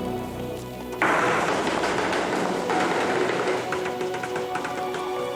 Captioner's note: zinc clattering